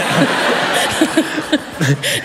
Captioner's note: laughter